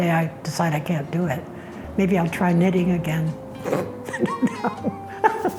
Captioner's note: scoffs